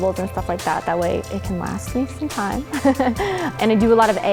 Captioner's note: laughing